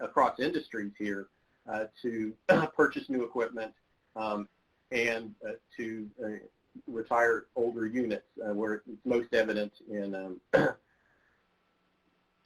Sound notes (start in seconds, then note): 10.3 coughing